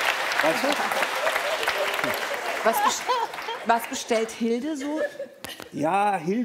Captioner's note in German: Lachen